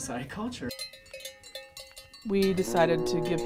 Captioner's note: cattle